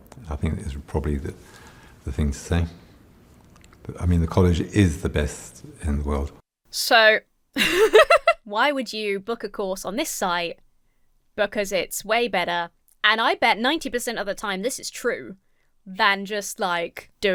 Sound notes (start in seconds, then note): 7.5 laughs